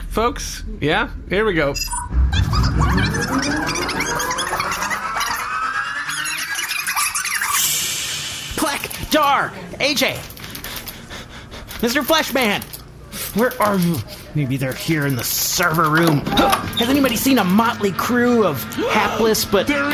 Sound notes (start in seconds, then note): 5.2 fast forwarding; 9.1 skittering frantically